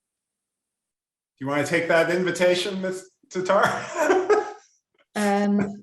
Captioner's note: laughs